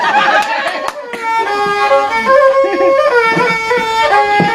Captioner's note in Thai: ปรบมือ